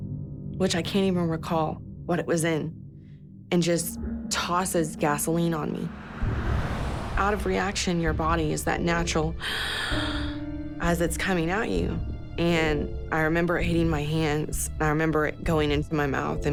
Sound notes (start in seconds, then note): 9.4 gasps